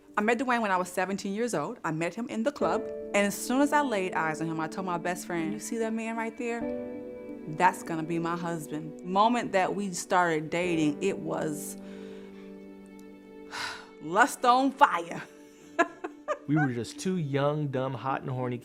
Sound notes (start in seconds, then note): 15.7 laughs